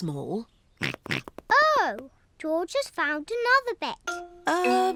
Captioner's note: snorts